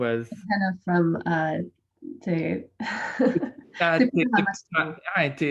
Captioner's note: laughs